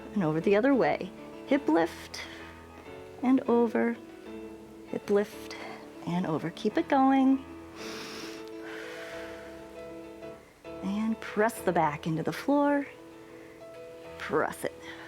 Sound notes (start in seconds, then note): 7.7 inhales and exhales